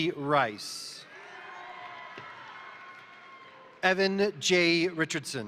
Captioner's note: crowd cheering; crowd applauding